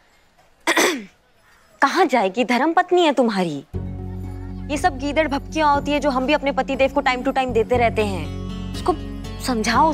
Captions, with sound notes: [clears throat] Where will she go? She's your wife. All of these are just threats. Even I give it to my husband.